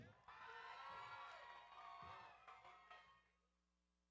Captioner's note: audience cheering